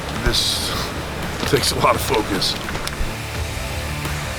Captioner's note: laugh